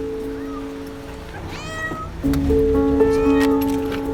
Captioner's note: louder meowing